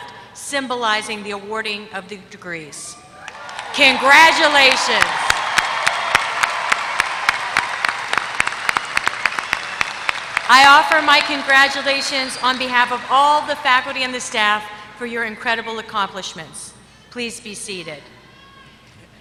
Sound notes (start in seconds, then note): 3.0 applause